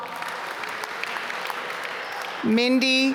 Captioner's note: applause